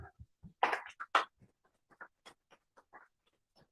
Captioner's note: applause